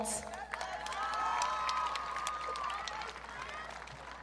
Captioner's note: audience cheering